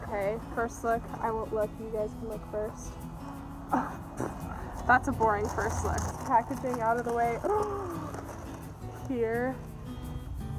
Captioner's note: laughs